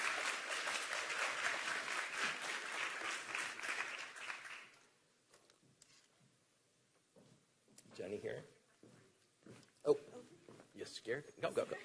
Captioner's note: applause